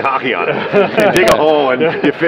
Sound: laughs

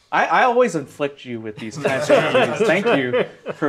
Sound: all laughing

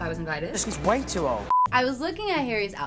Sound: beep

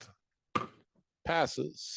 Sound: gavel thudding

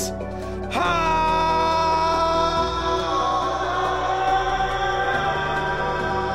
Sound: yelling

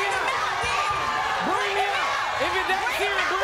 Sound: crowd cheering

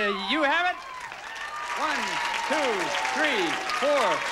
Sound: audience applauding

